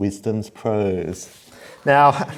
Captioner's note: laughter